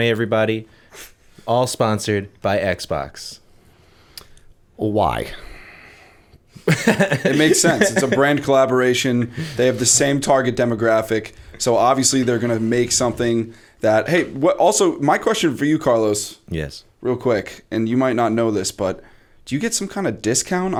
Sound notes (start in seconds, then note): 5.0 laughter